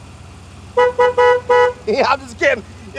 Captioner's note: horn honking